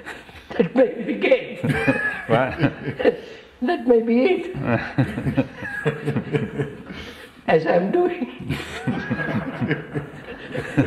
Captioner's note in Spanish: Risas